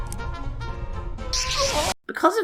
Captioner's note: the noise of death and regret